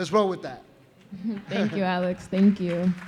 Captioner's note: laughs